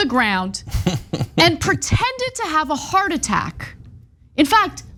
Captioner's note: laugh